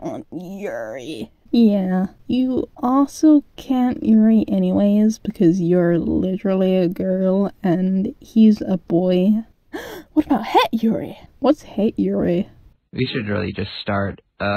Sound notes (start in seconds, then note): 9.7 gasp